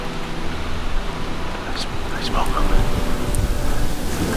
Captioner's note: whispers